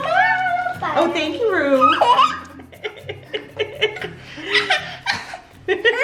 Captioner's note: laughs